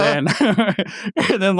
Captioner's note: laughing